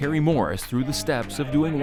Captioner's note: both chatter